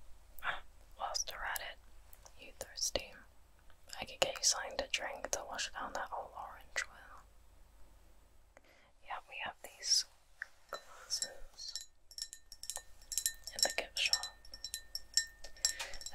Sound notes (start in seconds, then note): 12.1 tapping